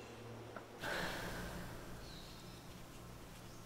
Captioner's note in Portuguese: suspiro